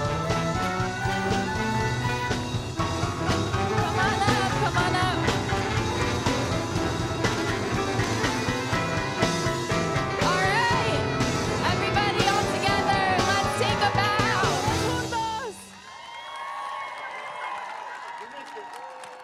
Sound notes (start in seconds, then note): 0.2 upbeat music continues; 14.9 audience cheers; 14.9 speaking in Spanish